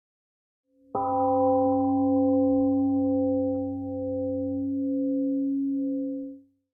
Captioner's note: temple gong rings and fades